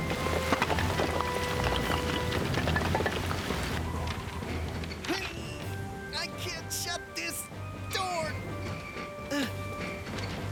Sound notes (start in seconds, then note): 0.0 shingles Clattering; 5.2 straining